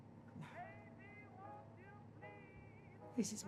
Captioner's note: quietly